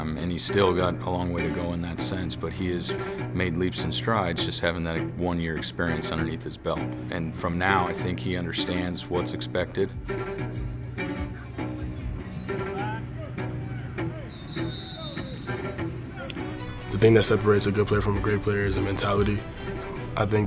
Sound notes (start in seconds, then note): 11.4 players and coaches yelling in background; 13.8 whistle blows